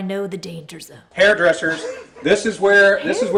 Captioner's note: audience laughs